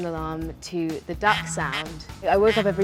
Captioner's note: duck quacking